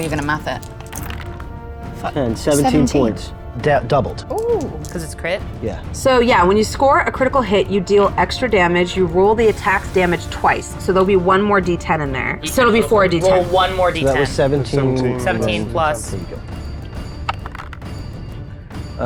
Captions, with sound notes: You're gonna math it. (dice rattling) - 10, 17 points. - 17. - Doubled. - Ooh. - 'Cause it's crit? - Yeah. - So yeah, when you score a critical hit, you deal extra damage. You roll the attack damage twice, so there'll be one more d10 in there, so it'll be 4d10. - Roll one more d10. - So that was 17 and then- - 17 plus three times. - 17 plus. - Here you go.